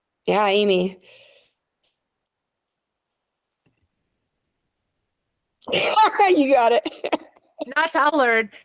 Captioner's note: laughing